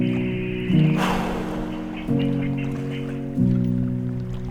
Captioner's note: exhales sharply; sad piano music